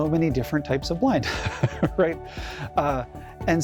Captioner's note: chuckles